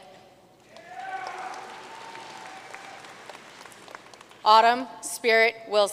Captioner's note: audience cheering and applauding